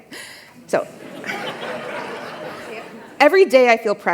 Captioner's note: laughter